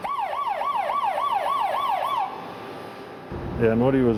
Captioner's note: alarm